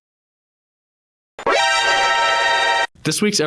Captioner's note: surprising sound effect